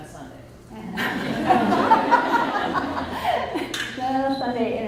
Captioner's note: audience laughs